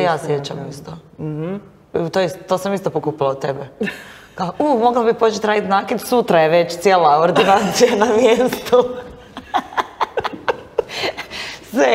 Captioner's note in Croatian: smijeh